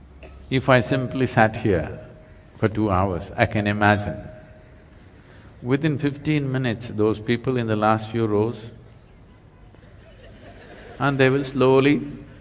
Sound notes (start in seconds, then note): 9.7 laughter